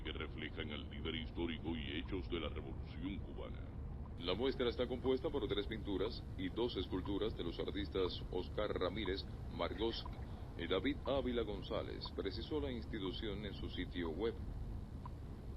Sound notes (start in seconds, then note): 0.2 radio